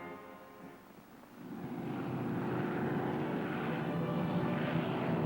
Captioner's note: aircraft droning